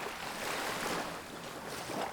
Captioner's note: wind blowing